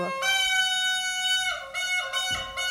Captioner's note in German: Trötenähnliche Klänge